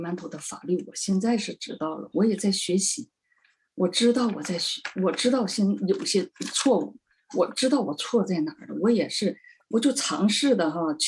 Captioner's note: speaking chinese